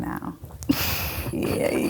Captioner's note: laughing